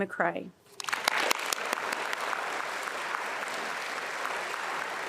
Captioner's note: attendees applauding